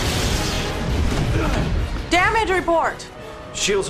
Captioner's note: explosion